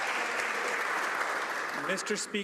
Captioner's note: some Applause